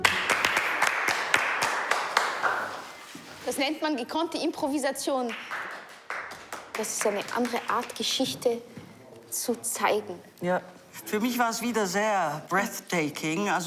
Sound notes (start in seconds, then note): 0.0 applauding; 3.4 speaking foreign language